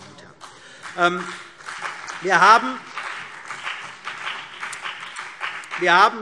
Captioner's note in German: Beifall